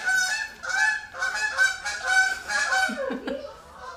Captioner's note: extremely loud geese flying over